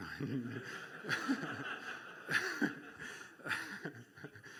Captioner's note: laughter